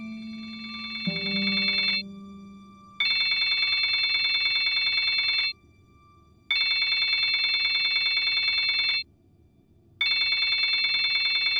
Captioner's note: phone rings